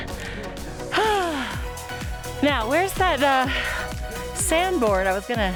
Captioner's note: sigh